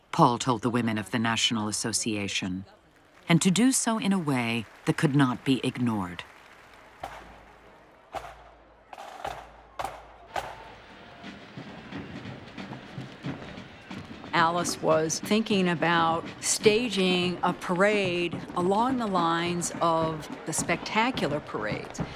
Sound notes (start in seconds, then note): 6.9 people talking in background, drum beating